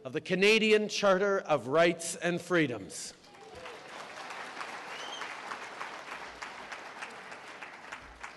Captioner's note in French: Applaudissements